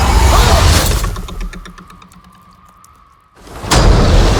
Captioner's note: object twangs; water crashing